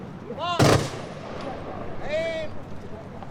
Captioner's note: guns firing